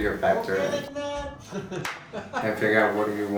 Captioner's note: clap